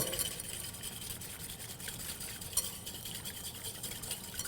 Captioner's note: whisking sounds